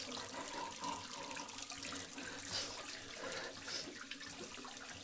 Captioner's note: Marianne continues panting